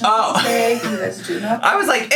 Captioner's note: laughing